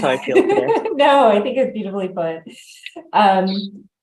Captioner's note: laughs